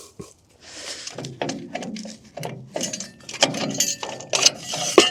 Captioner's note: metal clanking